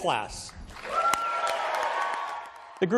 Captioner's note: cheering